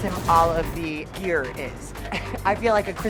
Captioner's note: laughs